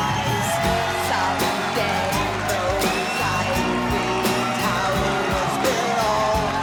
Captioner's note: crowd cheering